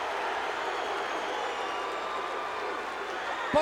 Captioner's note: crowd Cheering; crowd Clapping